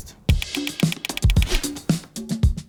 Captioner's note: upbeat music; notes click repeatedly; note swooshes